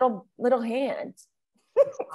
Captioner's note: laughs